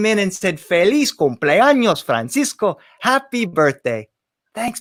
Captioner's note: spoken in foreign language